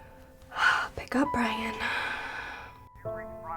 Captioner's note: sighs